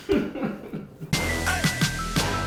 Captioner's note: laughter; hip hop music